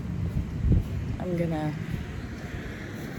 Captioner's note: wind gusts